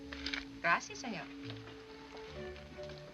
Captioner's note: speaking spanish